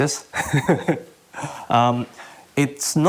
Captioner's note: laughs